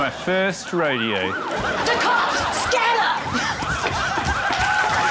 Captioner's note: sirens wail; cheering, applause